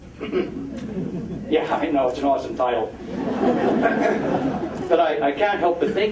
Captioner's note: audience laughing